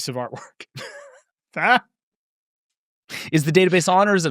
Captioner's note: both laughing